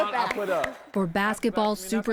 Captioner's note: applause